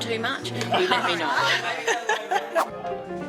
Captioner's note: laughs